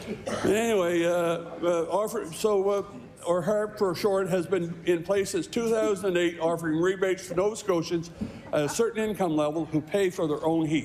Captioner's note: laughter